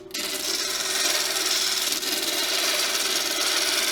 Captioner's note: machine Grinding Noise